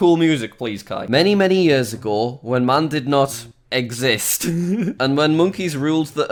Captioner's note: laughs